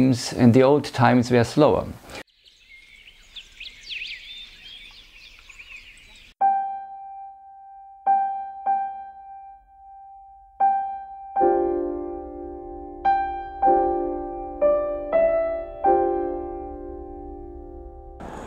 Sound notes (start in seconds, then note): 2.1 birds chirping; 6.7 light piano music